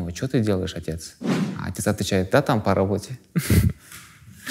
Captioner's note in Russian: смеется